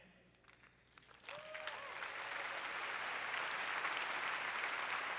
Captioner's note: applause